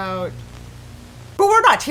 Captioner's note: Static